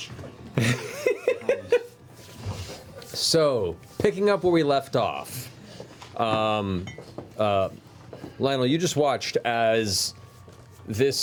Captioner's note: laughs